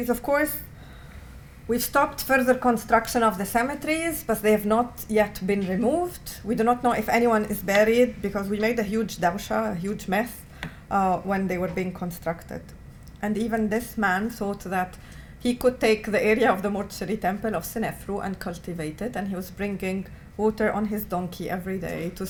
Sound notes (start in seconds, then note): 9.4 non-english